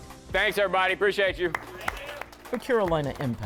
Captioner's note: participants applaud